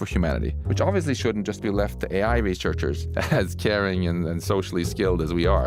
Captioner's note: laugh